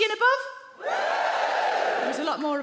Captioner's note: audience woos